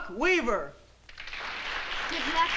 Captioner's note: applause